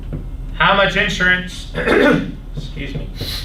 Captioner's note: clears throat